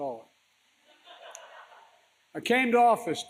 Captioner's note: laughter